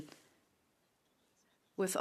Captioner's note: speaking French